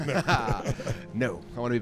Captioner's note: laughs